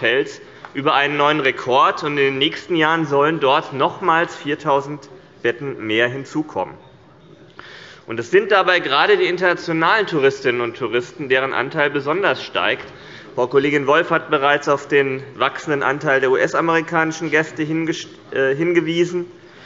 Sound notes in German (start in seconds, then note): none